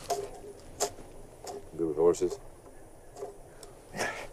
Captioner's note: sighs